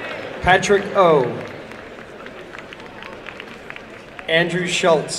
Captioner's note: applause and cheering